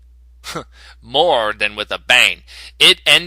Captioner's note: chuckle